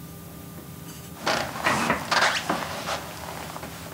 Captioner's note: creaking